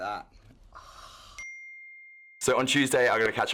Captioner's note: exhales; dings